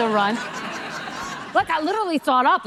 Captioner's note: audience laughing